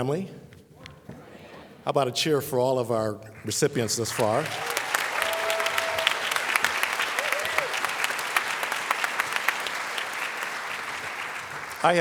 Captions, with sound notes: matadore family how about a cheer for all of our recipients thus far? [ Applause ]